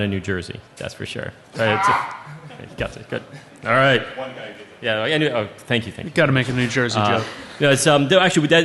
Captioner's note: laughing